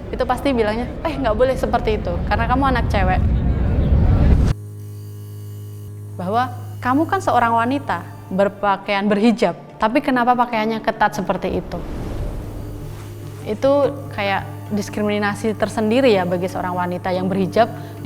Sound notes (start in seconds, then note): 3.4 chattering; 4.6 interference